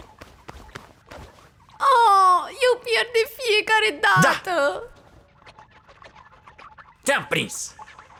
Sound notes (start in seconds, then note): 4.8 gloinks squeaking, boinking